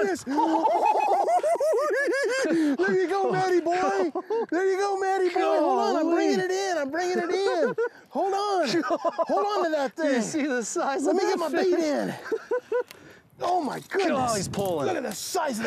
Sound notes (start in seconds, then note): 0.0 both laughing; 9.7 laughing